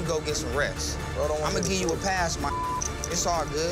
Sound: beep

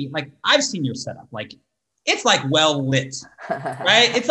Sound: laughs

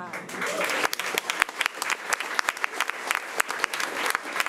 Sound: crowd clapping

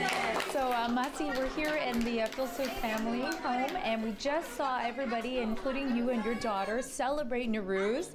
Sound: cheers

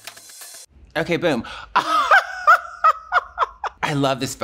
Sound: laughs

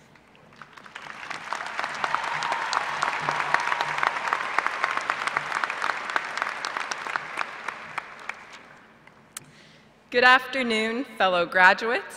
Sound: applause

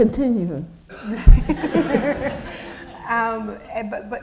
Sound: laughter

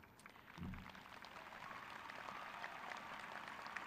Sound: crowd clapping

